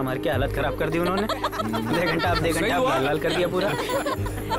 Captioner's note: Laughs